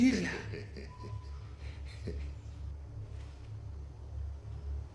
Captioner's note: laughing